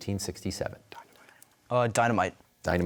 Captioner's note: whispers